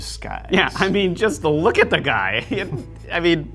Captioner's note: laughs